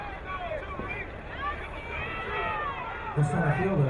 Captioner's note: crowd cheering